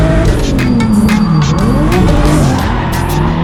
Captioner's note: engine revs; tires squealing